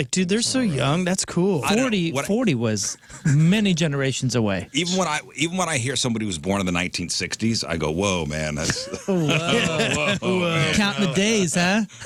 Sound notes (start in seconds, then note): 8.6 laughter